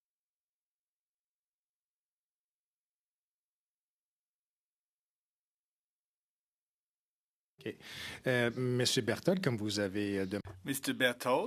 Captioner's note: silence